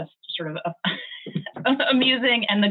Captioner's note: chuckling